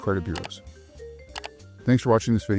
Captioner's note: gentle music continues; mouse clicking